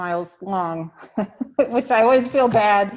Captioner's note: laughs